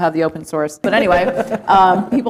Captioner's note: laughter